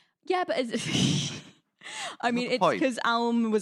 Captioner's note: laughs